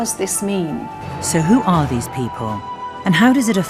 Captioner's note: voiceover